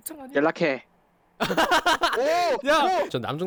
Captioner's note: laughing